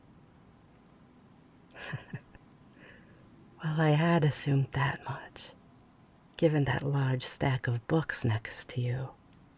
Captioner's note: chuckle